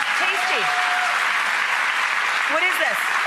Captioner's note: cheers and applause